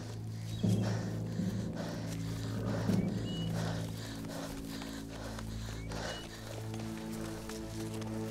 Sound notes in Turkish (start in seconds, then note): 0.0 Nefes sesi